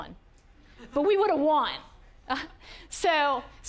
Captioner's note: audience laughing